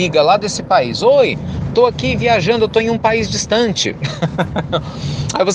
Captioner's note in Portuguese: Risos